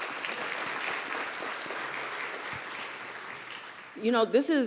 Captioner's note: applause